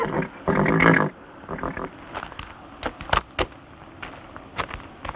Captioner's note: horse whinnying